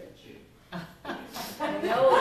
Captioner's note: laughter